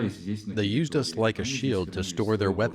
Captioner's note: through translator